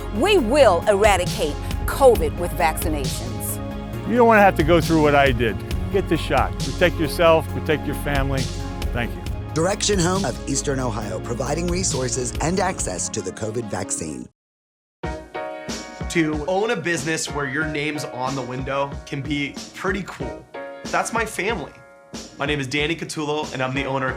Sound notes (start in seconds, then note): 9.6 voice-over